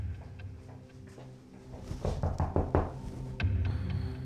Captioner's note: knock on door